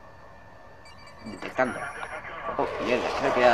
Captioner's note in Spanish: radio